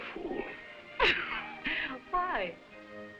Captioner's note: Baroness laughing